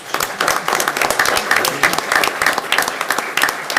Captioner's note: clapping